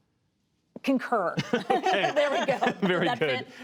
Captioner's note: laughter